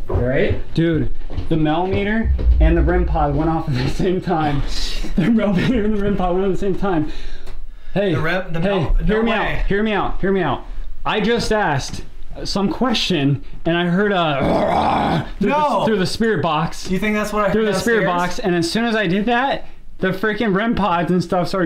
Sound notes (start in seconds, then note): 14.4 growling